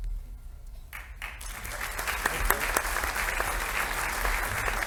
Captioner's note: audience applauding